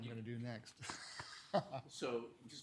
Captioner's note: laughs